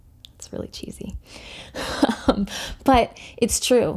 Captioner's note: laughs